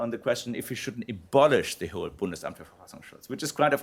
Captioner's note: non-english speech